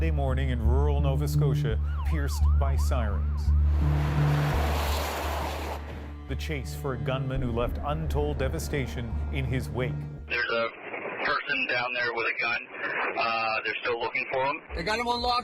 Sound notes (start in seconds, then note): 1.5 sirens